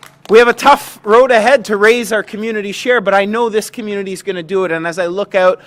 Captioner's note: applause